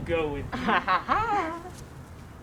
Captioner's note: laughs